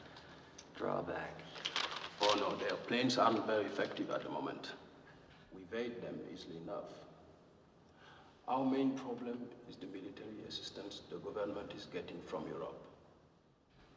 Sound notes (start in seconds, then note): none